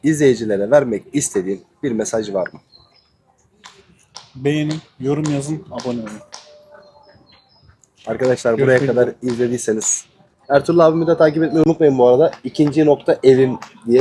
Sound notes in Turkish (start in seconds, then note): none